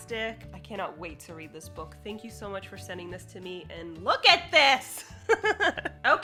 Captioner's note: laughs